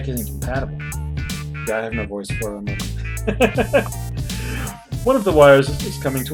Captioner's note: laughs